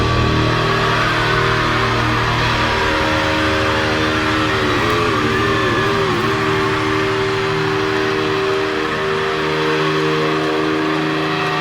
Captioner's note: cheering